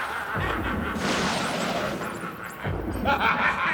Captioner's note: laughs maniacally; thunder crashes